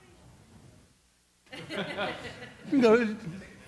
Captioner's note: laughter